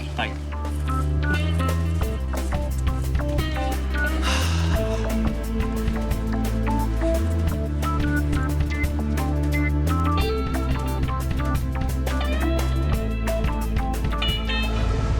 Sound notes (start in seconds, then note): 0.3 sensual music; 3.9 sighs